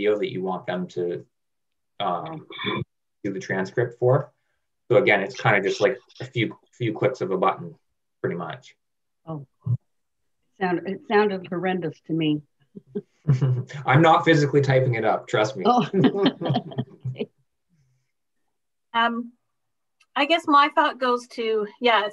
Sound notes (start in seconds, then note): 15.4 laughing